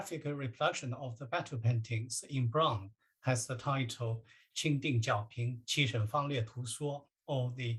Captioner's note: chinese speech